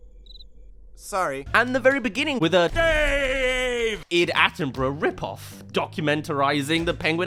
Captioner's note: cricket gag